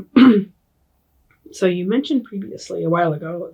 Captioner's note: clears throat